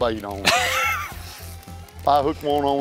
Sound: laughs

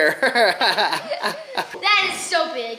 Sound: laughs

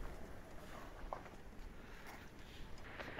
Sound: vehicle approaching

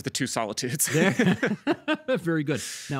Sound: both laughing

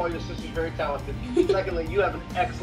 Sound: giggles

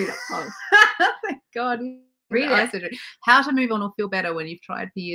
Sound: laughing

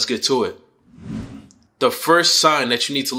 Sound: swooshing sound

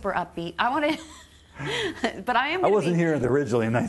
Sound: laughing

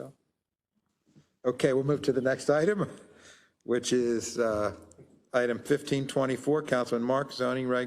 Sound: laugh

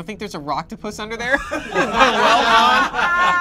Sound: group laughs

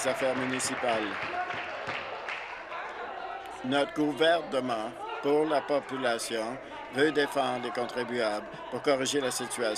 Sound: some Applause

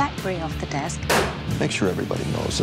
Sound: BlackBerry thudding

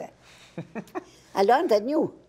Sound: man laughing

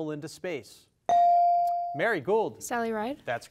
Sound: device dings

